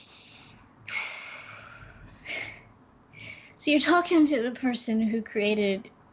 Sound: sighs

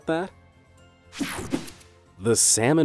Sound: logo snaps

